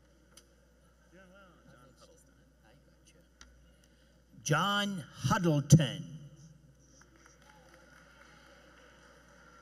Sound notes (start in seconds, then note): 3.4 applause